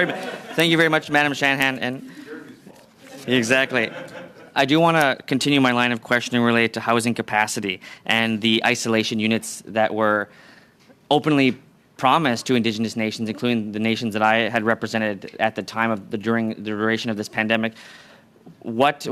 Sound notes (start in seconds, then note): 3.1 laughter